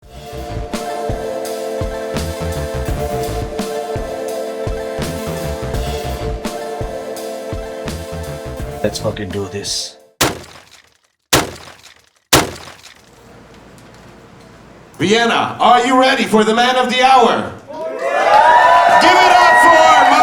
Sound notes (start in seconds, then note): 10.2 gunshots; 17.6 cheering